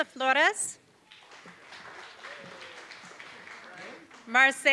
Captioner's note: applause